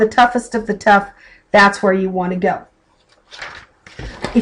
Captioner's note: flipping pages